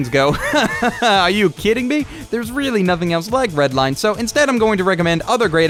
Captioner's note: laughs